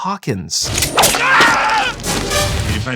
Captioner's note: Hawkin’s death screams